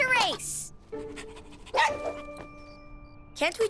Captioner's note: champion barks